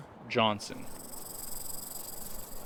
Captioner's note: snake hissing